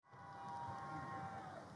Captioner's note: graduates cheer